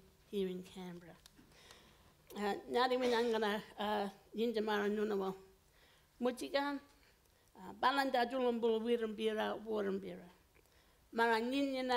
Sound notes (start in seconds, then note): 2.2 foreign language